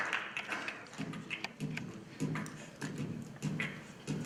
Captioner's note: beatboxing